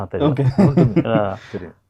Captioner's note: laughing